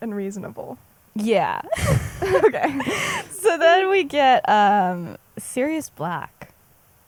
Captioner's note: laughs